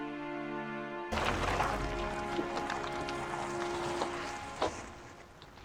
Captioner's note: car engine rumbling